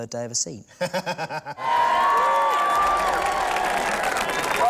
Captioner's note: all cheering